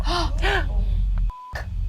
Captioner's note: players gasping; beeps